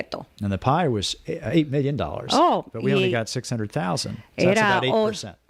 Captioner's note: Hablando ingl\s